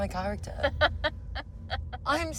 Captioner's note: laughs